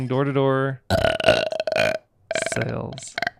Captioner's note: burps